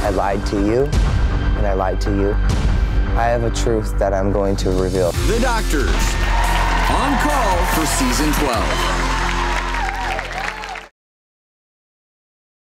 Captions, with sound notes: I lied to you. And I lied to you. I have a truth that I'm going to reveal. The Doctors. (cheering) On call for Season 12. (cheering and clapping)